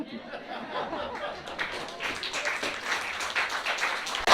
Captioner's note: laughter